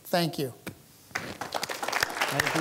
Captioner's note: applause